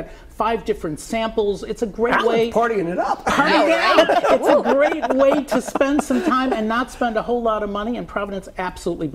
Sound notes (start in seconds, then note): 6.3 laughter